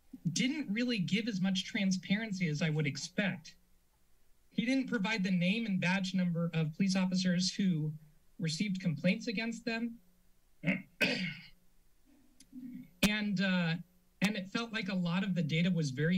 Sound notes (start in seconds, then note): 3.7 silence; 10.6 clears throat